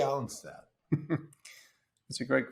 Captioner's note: laughs